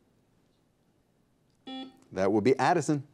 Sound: buzzer beeps

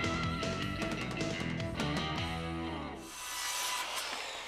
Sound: saw buzzing

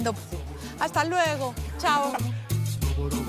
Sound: laughs

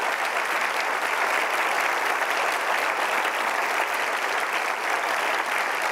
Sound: crowd applauding

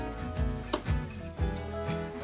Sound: tap

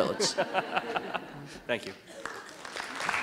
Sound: laughter

